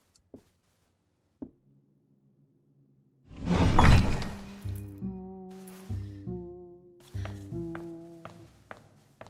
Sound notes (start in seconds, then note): 3.4 door creaks; 4.1 string bass music